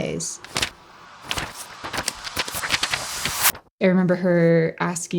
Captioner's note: papers rustling